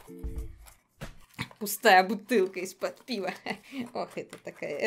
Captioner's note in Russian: смех